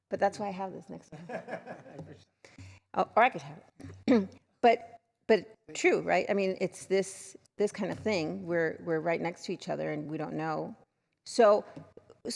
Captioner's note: laughter